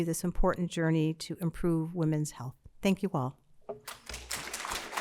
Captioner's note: applause